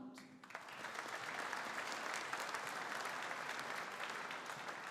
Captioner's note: audience applauding